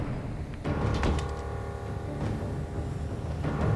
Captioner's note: door thuds; tense ominous music